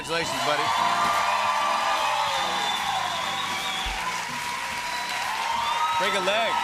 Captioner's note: cheers and applause